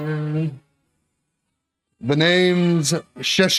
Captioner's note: Humming Bond Tune